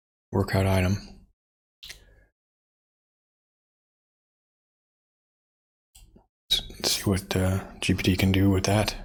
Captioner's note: blank Audio